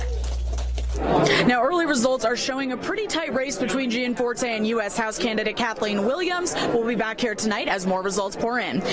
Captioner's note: applause